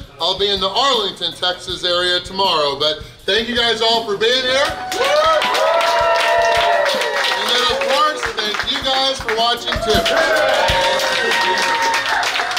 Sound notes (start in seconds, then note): 4.5 people clap and cheer happily; 10.3 people cheer happily